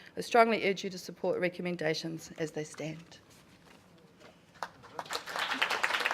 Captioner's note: applause